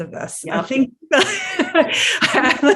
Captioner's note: both laughing